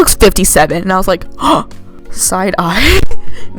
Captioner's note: gasp